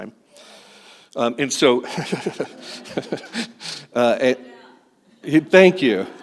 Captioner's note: laughter